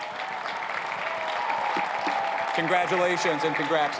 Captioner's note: cheers and applause